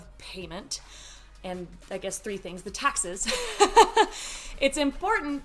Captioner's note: laughs